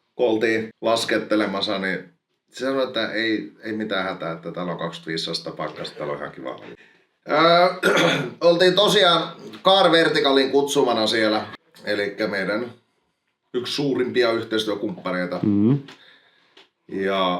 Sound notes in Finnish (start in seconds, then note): 7.8 rykäisee